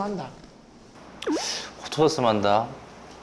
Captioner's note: sigh